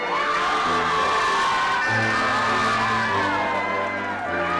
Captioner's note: attendees cheering